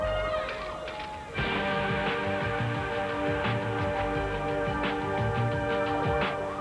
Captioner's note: siren sounds